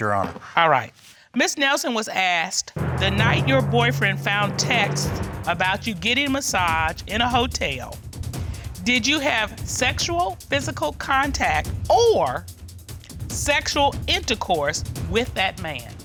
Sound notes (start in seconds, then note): none